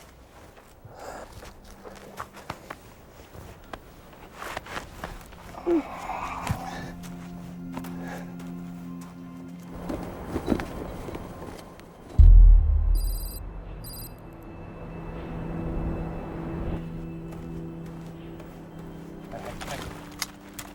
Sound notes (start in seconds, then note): 5.4 woman groaning; 9.6 flag rustling; 11.8 tense music; 11.9 text clicking